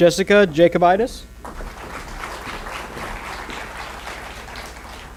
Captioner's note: applause